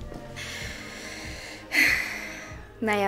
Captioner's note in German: Sie seufzt